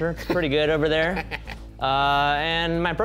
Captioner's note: laughing